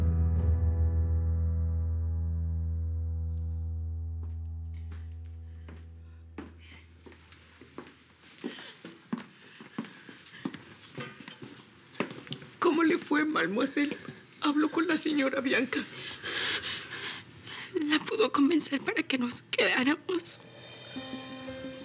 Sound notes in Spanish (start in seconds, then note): 10.2 Sollozos